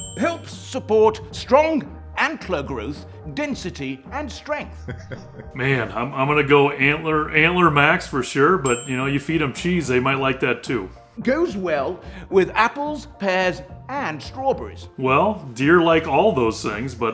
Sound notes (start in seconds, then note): 4.7 chuckles